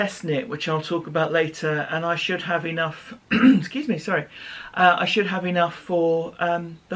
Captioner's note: cough